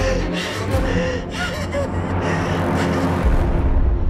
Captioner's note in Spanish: Sollozos